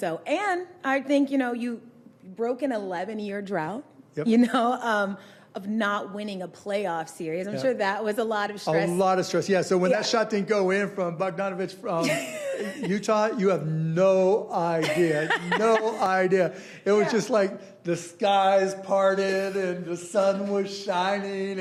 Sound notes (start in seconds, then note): 14.6 laughing